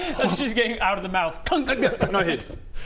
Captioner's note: clunk!